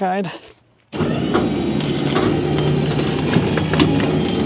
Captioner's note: machinery humming